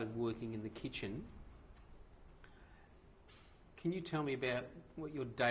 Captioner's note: pauses for 3 seconds